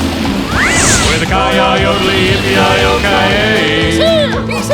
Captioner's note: wolf howling